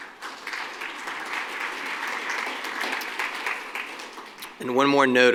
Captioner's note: applause